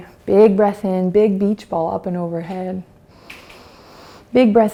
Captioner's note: inhales